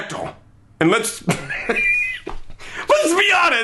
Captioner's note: laughing